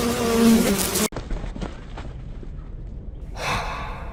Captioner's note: fly sounds cut out; breaths of exhaustion